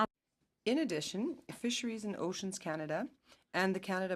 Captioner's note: speaking French